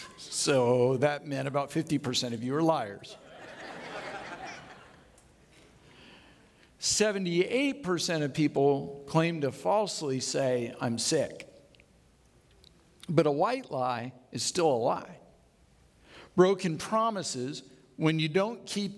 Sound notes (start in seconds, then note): 3.2 audience laughing